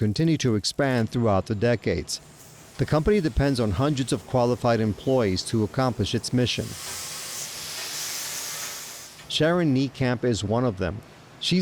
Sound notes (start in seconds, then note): 0.0 sparks crackling; 6.8 machine whirring